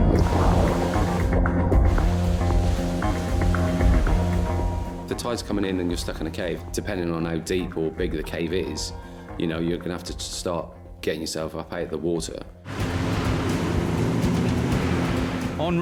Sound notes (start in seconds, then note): 0.0 dramatic music; 2.0 boat engine revving; 3.1 dramatic music; 12.6 boat engine revving